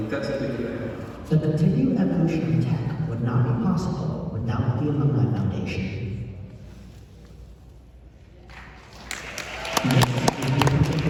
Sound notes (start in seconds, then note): 8.4 audience Claps